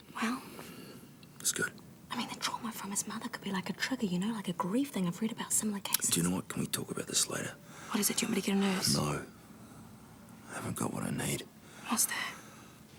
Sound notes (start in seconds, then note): none